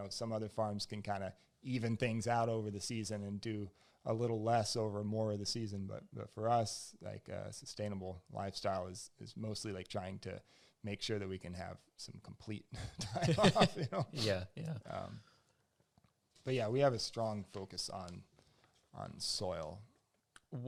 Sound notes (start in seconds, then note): 12.8 laughs